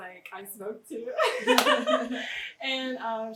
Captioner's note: laughs